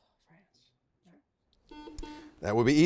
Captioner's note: buzzer sounding